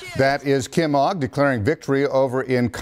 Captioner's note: cheering